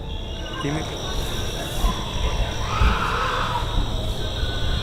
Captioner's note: screams